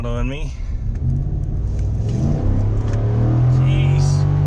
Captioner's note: engine revving